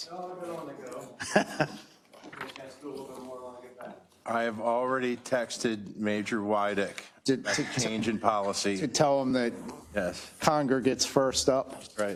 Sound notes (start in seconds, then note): 1.0 laugh